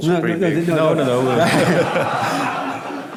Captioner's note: laughter